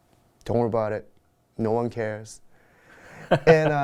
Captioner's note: laugh